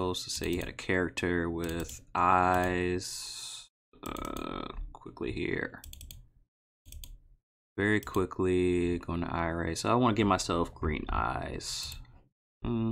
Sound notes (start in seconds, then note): 6.8 mouse clicking